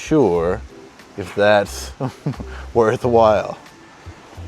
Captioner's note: chuckles